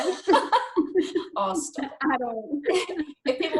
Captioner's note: speakers laugh